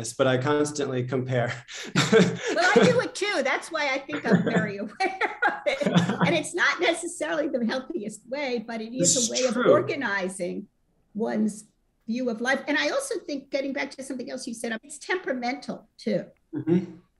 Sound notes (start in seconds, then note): 1.5 laughter; 4.1 laughter